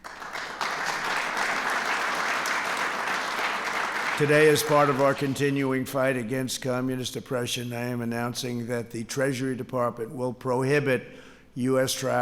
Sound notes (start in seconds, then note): 0.0 applause